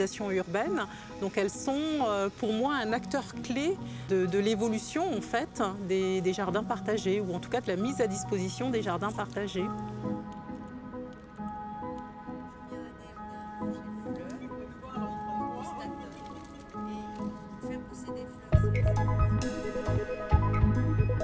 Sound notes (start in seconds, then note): 14.8 people chatter; 18.5 electro music